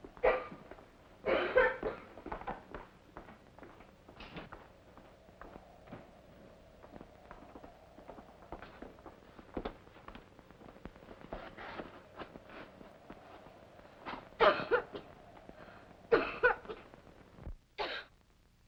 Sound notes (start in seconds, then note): 1.2 girl coughs; 3.5 wind heard faintly; 14.4 girl coughs